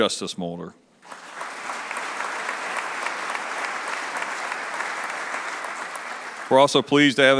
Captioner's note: applause